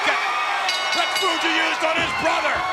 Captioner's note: bell rings